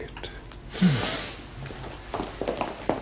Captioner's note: sniffing